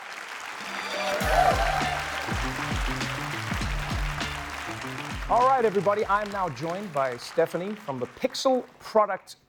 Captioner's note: applause